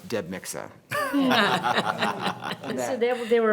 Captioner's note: members laughing